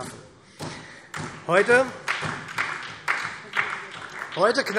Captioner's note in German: Beifall SPD